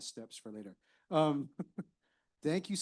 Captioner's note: chuckling